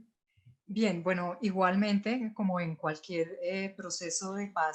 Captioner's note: in foreign language